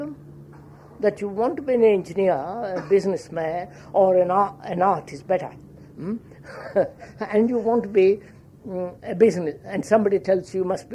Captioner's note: laughs